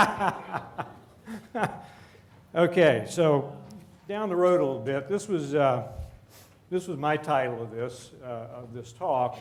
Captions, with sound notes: [laughter] Okay, so down the road a little bit. This was, this was my title of this, of this talk.